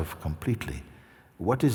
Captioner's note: none